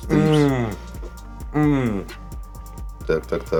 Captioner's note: moaning